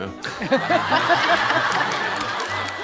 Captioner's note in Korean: 피식